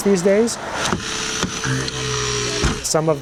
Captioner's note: spreaders humming